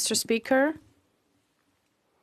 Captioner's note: speaking FRENCH